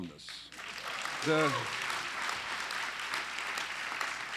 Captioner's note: applause